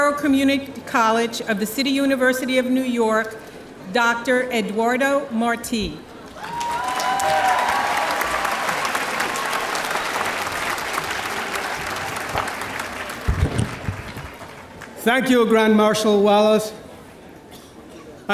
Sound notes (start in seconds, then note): 6.2 audience applauding